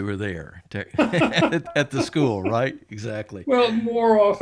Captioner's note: laughs